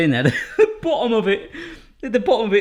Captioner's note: laughs